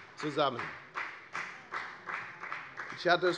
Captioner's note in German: Beifall bei Abgeordneten der FDP